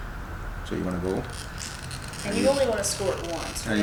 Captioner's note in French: cracking